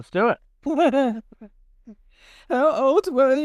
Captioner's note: chuckles